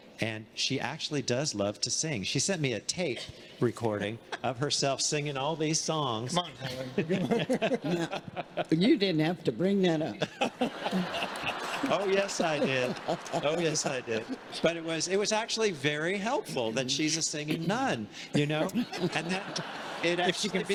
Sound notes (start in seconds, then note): 6.6 everyone laughing; 10.2 everyone laughing; 18.8 congregation laughing